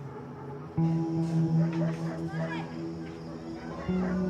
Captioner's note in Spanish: ladridos; música continúa